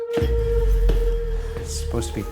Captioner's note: footsteps thumping